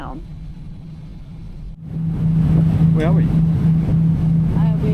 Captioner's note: engine noises